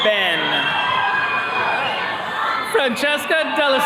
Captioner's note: attendees cheering